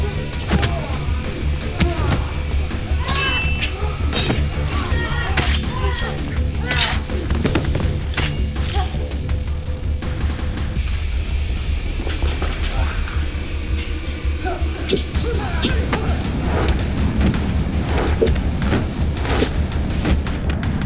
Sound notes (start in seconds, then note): 0.1 thudding; 2.9 metal clinking; 5.5 guts squishing; 12.0 dramatic music; 14.7 whooshing